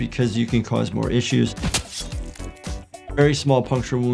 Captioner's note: knife slashes